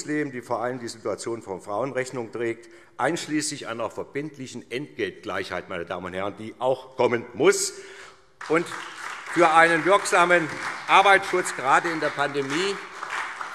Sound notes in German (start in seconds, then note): 8.4 Beifall SPD